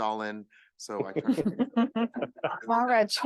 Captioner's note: laughing